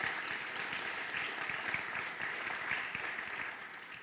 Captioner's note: applause